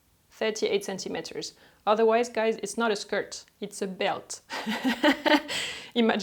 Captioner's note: chuckle